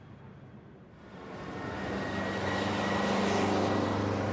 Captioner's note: city street noises